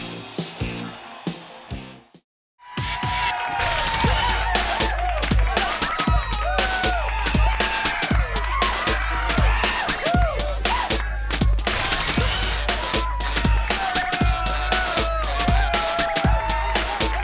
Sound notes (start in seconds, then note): 2.8 upbeat music; 6.6 audience cheers; 12.4 upbeat music continues